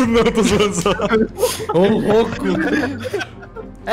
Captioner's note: everyone laughing